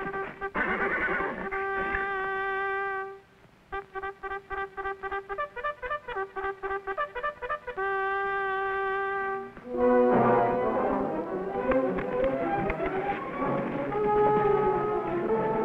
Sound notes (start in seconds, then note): 0.5 Trooper neighs; 9.6 dramatic music